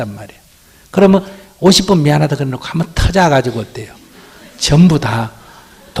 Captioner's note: audience Laughter